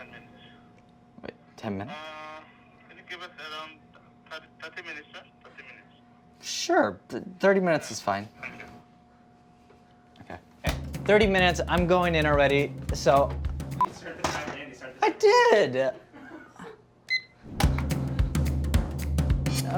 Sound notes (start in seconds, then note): 16.0 man laughs; 17.1 timer beeps; 17.5 up-tempo percussive music